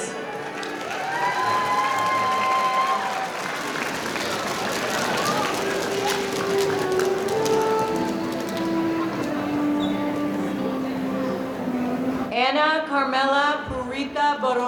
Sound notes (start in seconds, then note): 0.1 audience cheering; 4.1 audience applauding